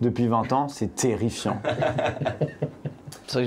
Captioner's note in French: rires